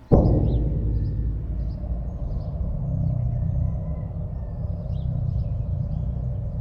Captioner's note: birds chirping; dramatic, foreboding music